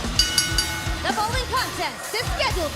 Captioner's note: bell ringing